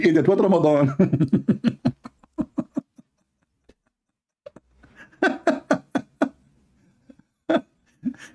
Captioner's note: Ketawa